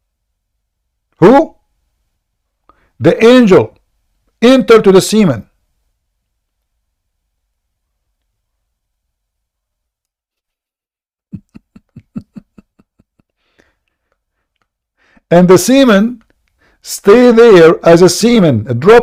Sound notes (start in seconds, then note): 11.3 Ketawa